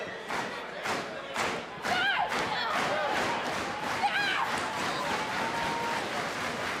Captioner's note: clapping